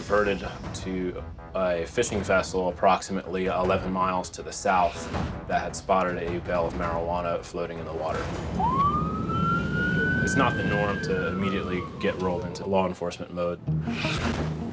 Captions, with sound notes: - We were diverted to a fishing vessel approximately 11 miles to the south that had spotted a bale of marijuana floating in the water. (siren wailing) It's not the norm to immediately get rolled into law enforcement mode.